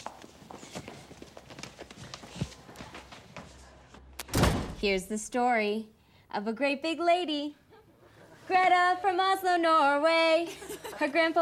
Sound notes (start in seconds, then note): 4.2 door bangs